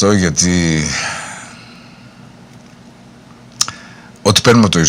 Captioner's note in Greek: αναστεναγμός